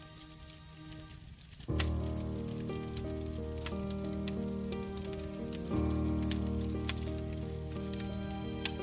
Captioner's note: soft crackling fire sounds